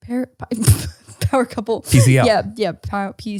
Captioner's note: laughs